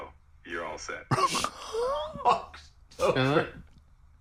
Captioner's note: laughing